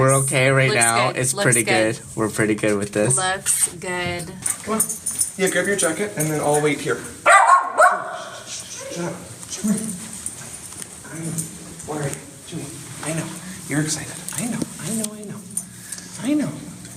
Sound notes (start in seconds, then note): 7.2 dogs bark